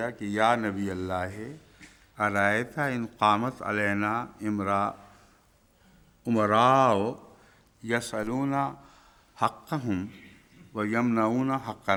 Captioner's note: Arabic